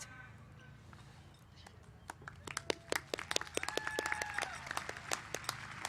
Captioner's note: applause